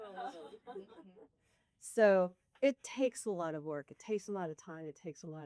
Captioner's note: everyone laughs